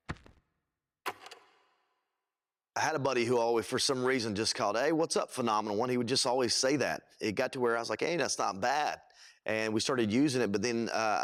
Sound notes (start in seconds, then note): 1.0 film reel clicks